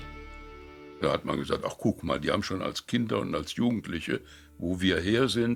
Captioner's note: speaking in foreign language